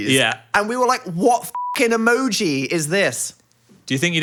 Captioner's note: beeps